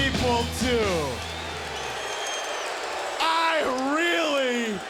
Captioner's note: crowd cheers